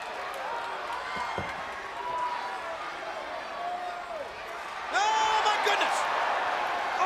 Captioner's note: crowd chatter